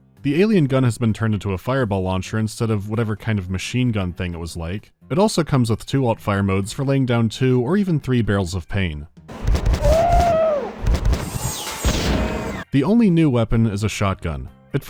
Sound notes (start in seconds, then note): 9.3 poom-poom-poom-poom; 10.8 poom-poom